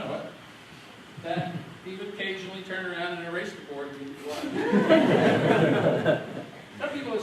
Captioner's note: laughter